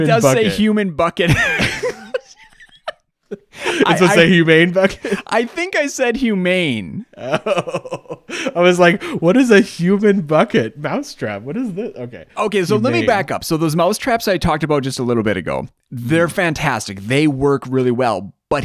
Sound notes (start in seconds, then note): 1.3 both laughing